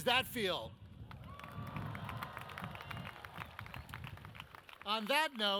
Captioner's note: audience cheers